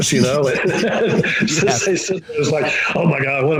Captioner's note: laughing